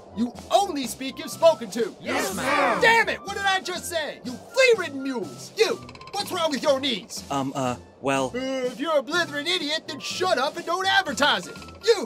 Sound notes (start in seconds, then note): none